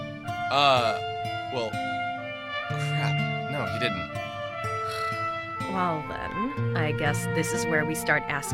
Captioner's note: sigh